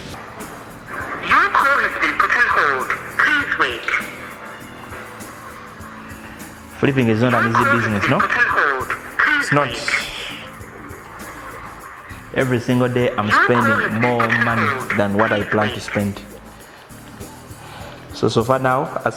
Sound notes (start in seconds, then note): 1.4 electronic Voice; 4.4 tense music